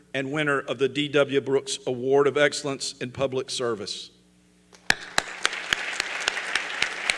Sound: applause

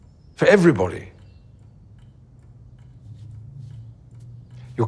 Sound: clock ticking

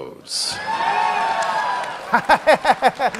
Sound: cheers

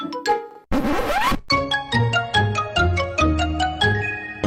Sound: record scratches

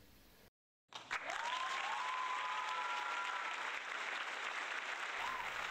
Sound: mock Applause

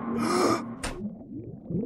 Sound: gasp

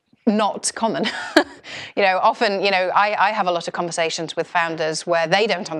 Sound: laugh

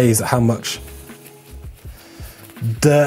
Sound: wiping

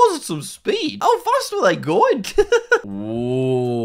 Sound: laughs

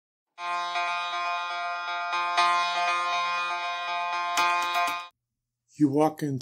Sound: alarm

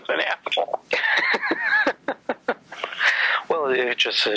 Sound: laughs

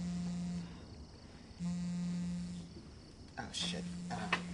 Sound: phone buzzing

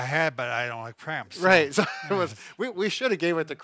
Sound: laughs

